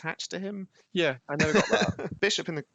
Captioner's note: laughter